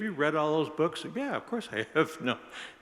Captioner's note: laughs